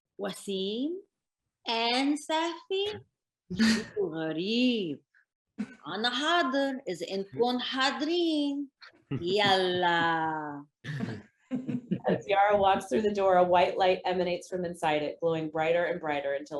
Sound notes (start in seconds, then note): 3.7 speaks in foreign language; 10.9 actors laughing